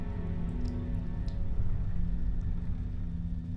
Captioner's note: liquid dripping